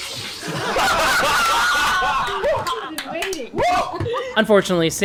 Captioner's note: laughter